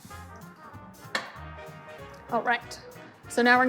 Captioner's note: glass clinking